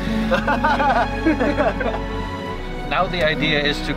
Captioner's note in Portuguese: risadas